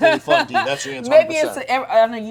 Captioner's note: laughing drowning out speech